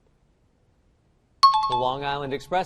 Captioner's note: time chime